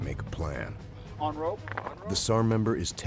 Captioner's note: voiceover; water splashes